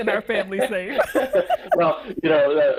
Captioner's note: both laugh